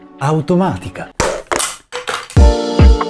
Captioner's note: battery pops out